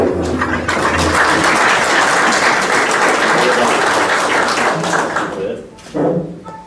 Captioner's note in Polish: oklaski